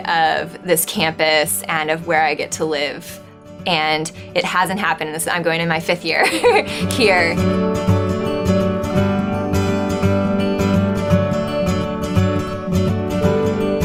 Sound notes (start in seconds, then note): 6.2 laughs; 6.3 instrumental music